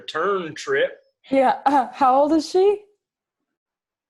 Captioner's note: laughs